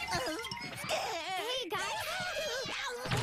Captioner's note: gasping